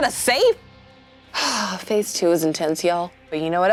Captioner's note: sighs